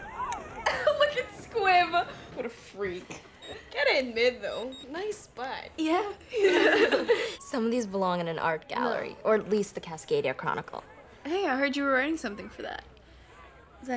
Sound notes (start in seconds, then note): 0.6 Cody laughing; 6.2 girls laughing